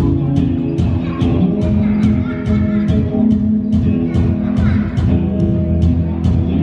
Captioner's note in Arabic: يضحك الأطفال ويصرخ